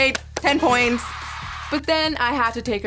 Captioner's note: cheering